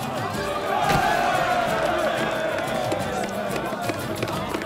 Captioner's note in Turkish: Tezahürat sesleri